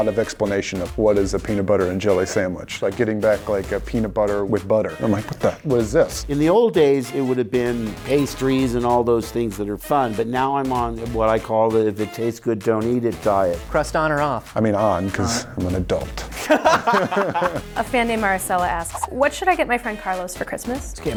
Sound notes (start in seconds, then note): 16.3 laughing